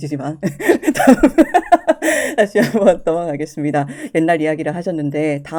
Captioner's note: laughs